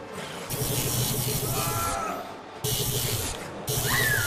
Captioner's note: suspenseful music; gun fizzling; Karen yelping